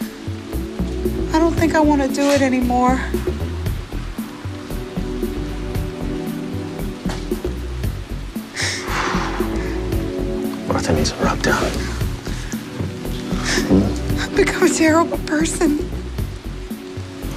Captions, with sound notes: I don't think I want to do it anymore. Martha needs a rubdow. [sniffling] I've become a terrible person.